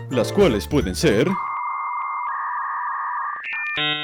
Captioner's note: dial-up tone blares